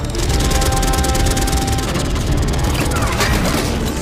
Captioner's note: gun shots